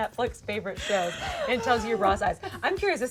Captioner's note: laughing